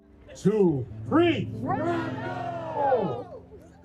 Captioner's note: crowd